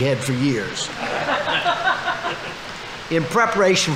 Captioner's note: audience laughing